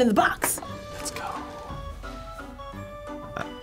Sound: whispers

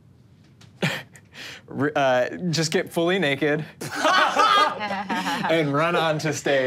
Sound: laughs

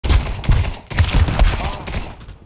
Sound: gun Sounds

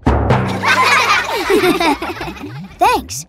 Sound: laughing

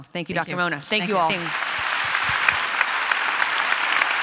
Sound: applause

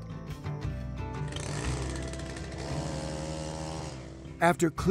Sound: trimmer buzzing

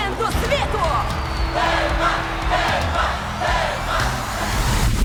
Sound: crowd chanting

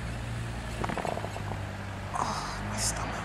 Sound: stomach rumbles

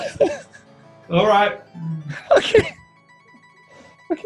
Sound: laughter; laughing; laughing

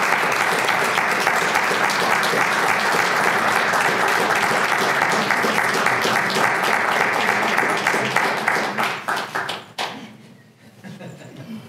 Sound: applause; laugh

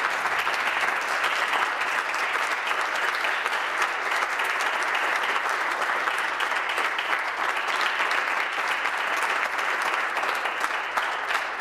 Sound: applause

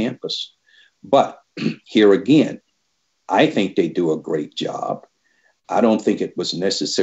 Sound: clears throat

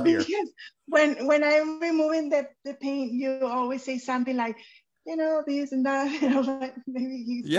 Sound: chuckles

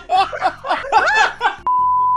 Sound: yelps; laughter

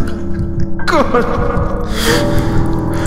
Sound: sobbing

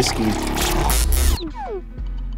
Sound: drink pours into glass; glitch sound

